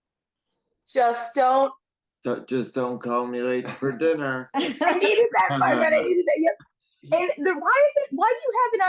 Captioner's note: laughs